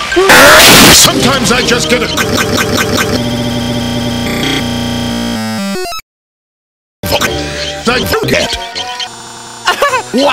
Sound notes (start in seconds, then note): 0.8 crashes